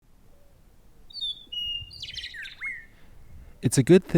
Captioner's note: birds chirping